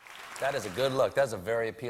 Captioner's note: cheers and applause